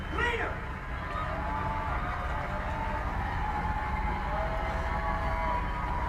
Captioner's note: audience on screen applauding